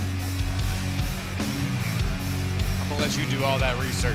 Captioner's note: crowd cheering